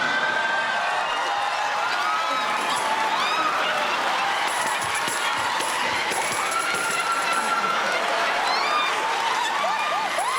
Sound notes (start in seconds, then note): 0.3 cheers and applause; 4.3 laughter